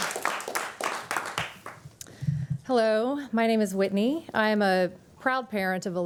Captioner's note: applause